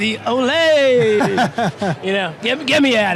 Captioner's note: laughing